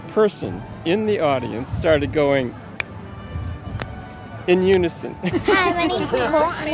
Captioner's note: snap